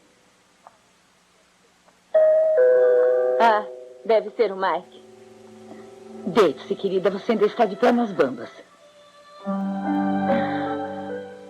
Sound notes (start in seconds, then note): 2.2 doorbell rings